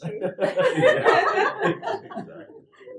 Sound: laugh

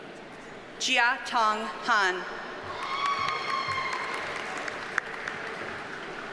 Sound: audience cheers and applauds

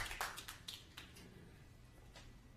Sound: applause

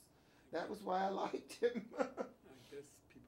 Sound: laughs

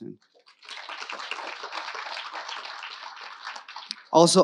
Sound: audience applauding

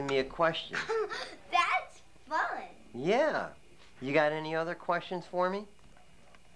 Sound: laughs

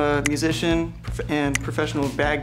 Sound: soft clicking

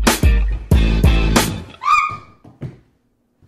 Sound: yelp

